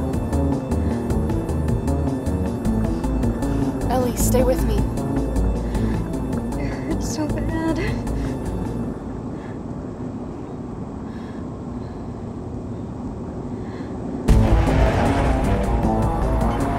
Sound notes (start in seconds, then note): 5.7 groans; 7.8 Ellie breathes uneasily; 14.2 intense music